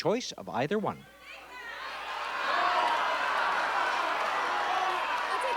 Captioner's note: chatter